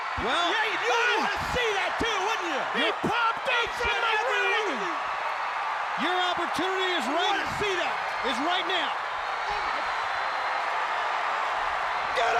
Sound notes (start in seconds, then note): 0.0 audience cheering; 4.5 Eric mumbling; 9.5 audience cheering